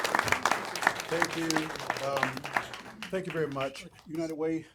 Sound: applause

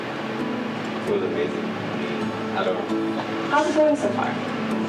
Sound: voice fades

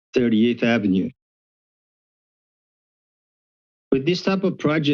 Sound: pause

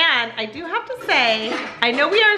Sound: pots banging

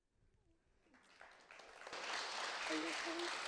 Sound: audience clapping

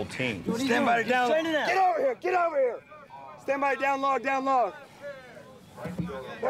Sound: student yelling

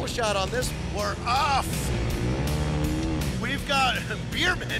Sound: engines revving

